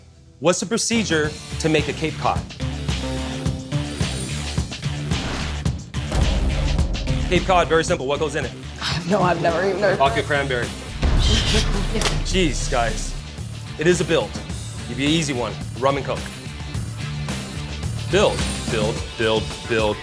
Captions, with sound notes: What's the procedure to make a Cape Cod? [ROCK MUSIC] Cape Cod, very simple. What goes in it? I don't know. I've never even heard of it. Vodka cranberry. [LAUGHTER] Jeez, guys. It is a build. I'll give you an easy one. Rum and Coke. [ROCK MUSIC] Build, build, build, build.